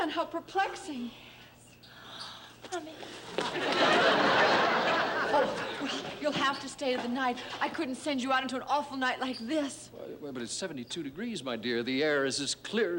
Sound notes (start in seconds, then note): 3.4 laughter